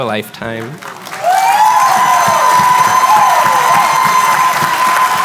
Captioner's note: cheering, applause